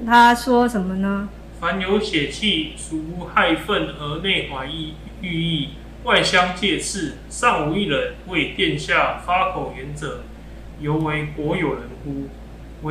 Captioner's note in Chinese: 朗讀